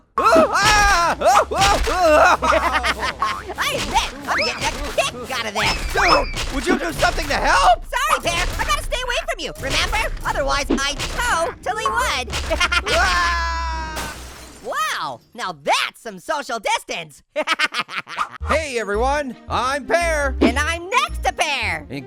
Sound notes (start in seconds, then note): 0.1 screams; 3.1 laughs; 12.4 laughs; 13.0 screams; 17.3 laughs